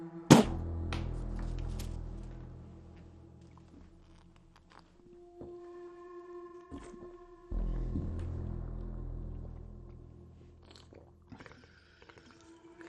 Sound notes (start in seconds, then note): 2.9 slurping; 5.4 ominous music continues